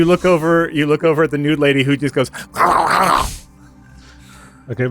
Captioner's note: fervent mouth noises